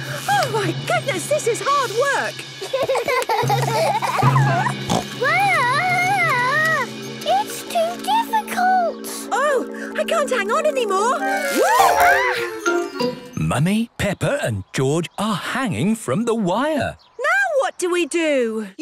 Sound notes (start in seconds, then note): 2.5 children giggling; 4.6 snorts